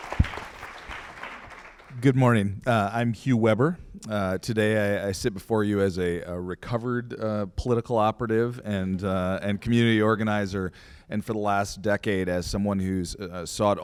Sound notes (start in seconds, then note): 0.0 applause